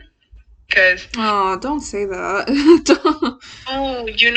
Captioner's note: sad laugh